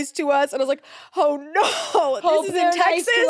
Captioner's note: laughs